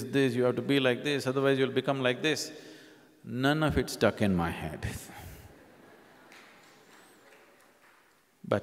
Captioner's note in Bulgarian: Смях